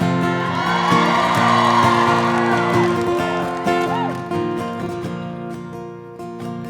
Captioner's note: audience applauding; audience cheering